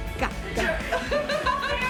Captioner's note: laughing